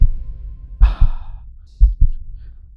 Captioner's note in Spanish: suspiro